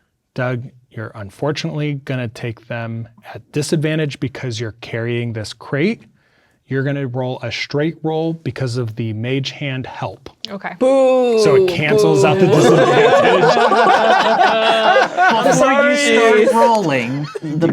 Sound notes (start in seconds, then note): 13.7 players laughing